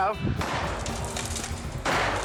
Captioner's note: sledgehammer pounding; silo cracking